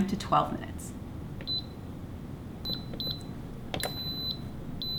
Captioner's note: cooker beeping